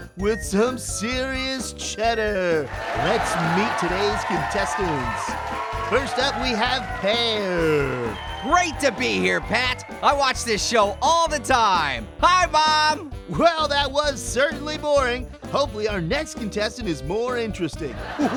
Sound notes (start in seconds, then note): 2.7 audience laughs; 5.3 audience cheers